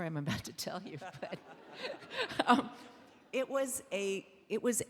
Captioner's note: laughing; audience laughing